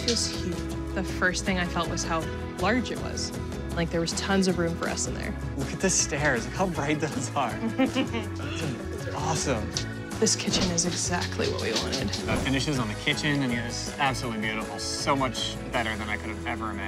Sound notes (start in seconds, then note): 7.6 laughs